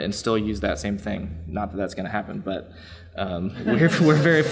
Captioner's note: laughs